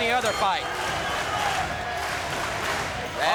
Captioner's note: bell ringing; crowd cheering